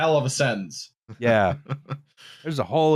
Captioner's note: chuckles